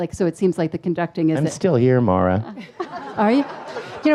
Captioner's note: audience laughs